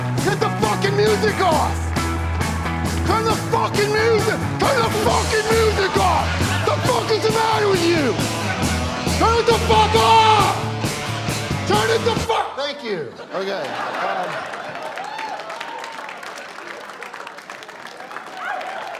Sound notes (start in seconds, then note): 12.1 music stops; 13.6 scattered cheering, applause